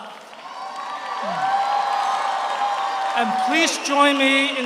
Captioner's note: audience applauds; audience cheers